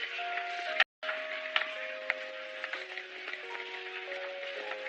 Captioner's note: applause